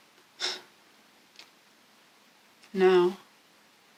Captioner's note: sigh